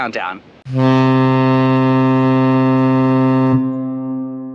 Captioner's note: ship sounds horn